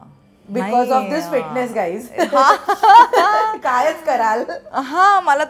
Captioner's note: Chuckles